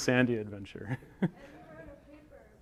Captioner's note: chuckles